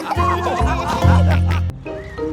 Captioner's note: all laughing